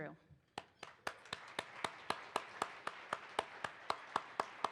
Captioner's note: participants applauds